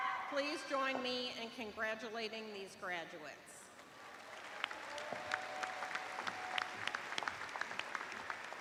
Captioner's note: applause